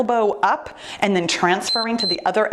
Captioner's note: timer beeps